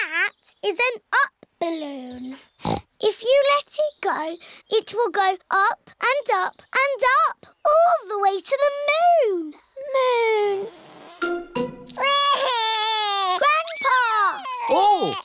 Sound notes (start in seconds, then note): 2.6 snorts; 12.0 wails